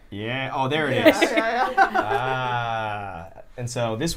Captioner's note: laughter